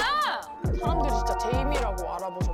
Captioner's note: double-checking sound effect